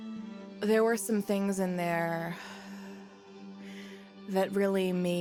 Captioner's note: sighs